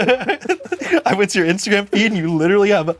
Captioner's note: both giggle